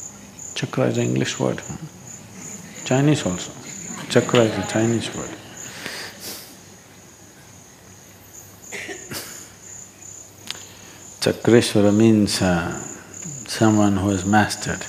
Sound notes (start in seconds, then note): 2.2 few laugh